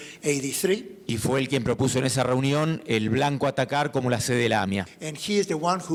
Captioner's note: speaking in foreign language